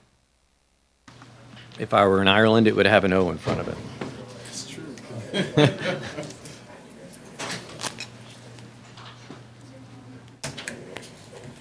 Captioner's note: laughter